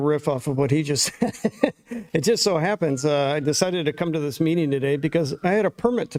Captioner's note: laughter